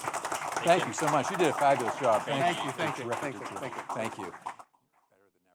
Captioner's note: applause